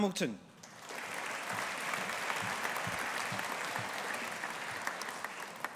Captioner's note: audience applauding